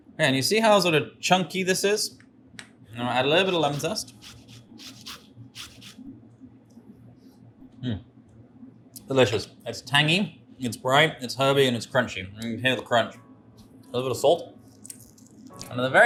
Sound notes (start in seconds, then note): 5.5 lemon scratches; 12.5 gentle instrumental music